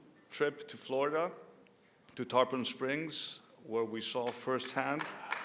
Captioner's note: applause